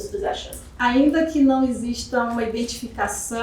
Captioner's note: speaking portuguese